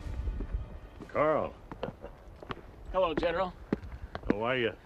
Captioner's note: chuckles